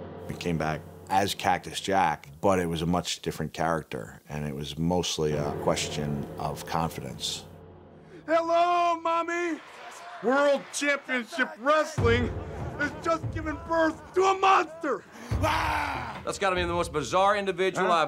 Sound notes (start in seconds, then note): 14.9 yells